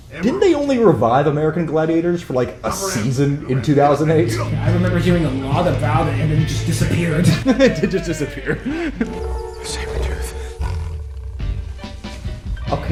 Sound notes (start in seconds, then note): 10.0 growls